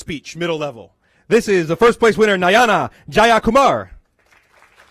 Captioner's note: applause